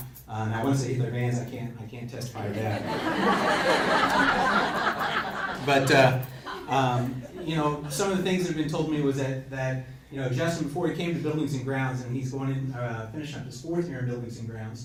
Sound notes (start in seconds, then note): 2.4 crowd laughs